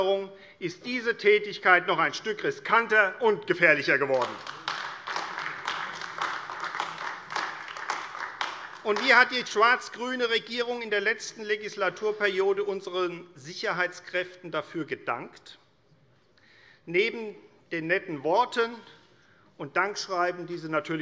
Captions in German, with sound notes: Einwanderung, ist diese Tätigkeit noch ein Stück riskanter und gefährlicher geworden. [Beifall AfD] Wie hat die schwarz-grüne Regierung in der vergangenen Legislaturperiode unseren Sicherheitskräften dafür gedankt? - Neben den netten Worten und Dankschreiben,